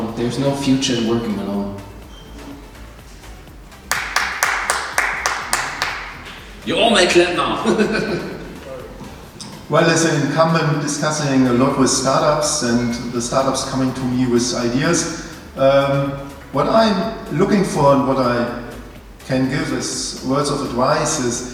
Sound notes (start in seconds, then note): 3.8 applause; 7.1 chuckles